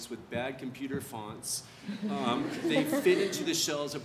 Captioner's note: audience laughs